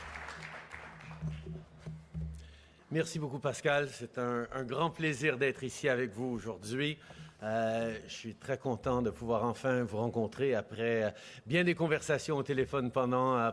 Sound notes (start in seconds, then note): 2.3 speaking French